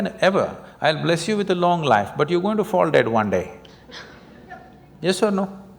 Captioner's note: laughter